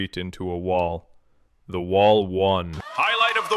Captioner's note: audience erupts